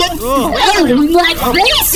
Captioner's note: Pleck and Dar exclaim in horror; voice higher; voice glitching